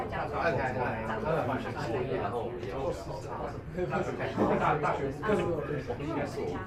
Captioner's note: speaking in foreign language